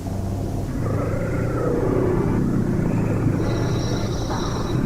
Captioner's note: distorted Voice